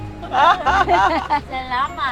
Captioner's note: everyone laughing